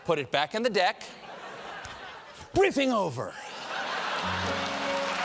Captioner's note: laughter